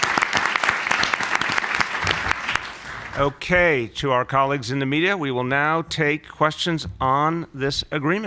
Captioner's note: applause